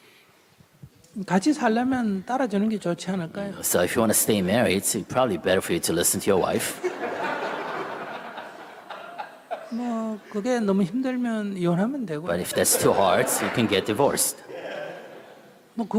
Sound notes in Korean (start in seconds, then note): 6.7 청중 웃음